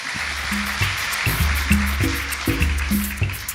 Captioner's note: applause